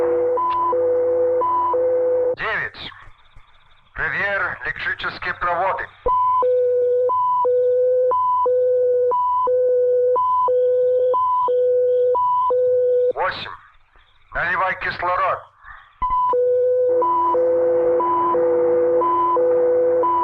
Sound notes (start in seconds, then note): 0.2 switch clicking; 2.1 soldier speaking in Russian; 5.8 machinery beeping; 13.0 soldier speaking in Russian; 16.0 machinery beeping and whirring